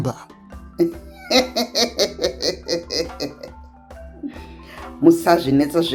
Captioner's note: laughs